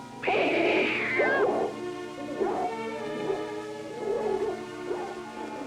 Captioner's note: dog barking